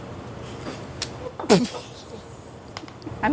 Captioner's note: laughter